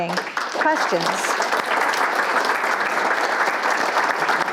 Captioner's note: audience applauds